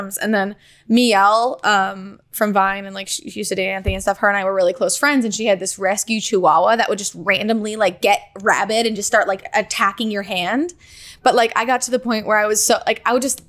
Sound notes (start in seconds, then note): none